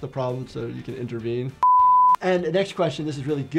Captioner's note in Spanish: pitidos de transmisión